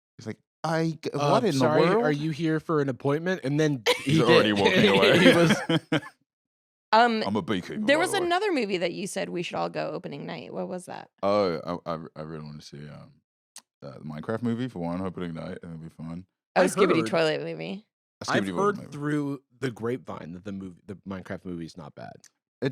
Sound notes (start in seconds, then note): 3.9 laughs